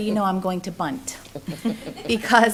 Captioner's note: laughter